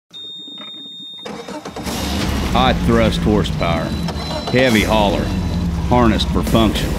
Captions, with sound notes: (boat engine starts) High thrust horsepower Heavy hauler Harnessed for function